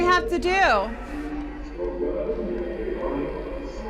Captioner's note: distorted speaking